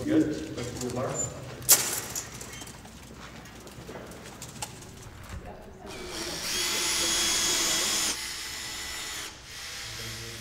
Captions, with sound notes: - We're good. Lift up the bar. [tool whirring]